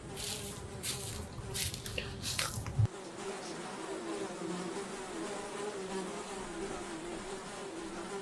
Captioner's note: buzzing of flies